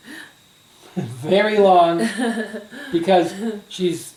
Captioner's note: laughs